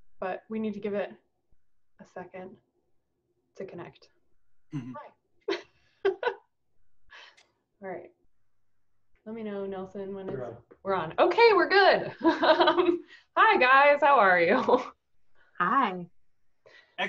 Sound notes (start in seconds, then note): 4.7 laughs; 12.2 chuckles